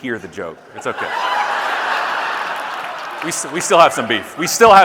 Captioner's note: audience laughing